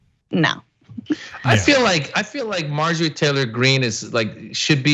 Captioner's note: laugh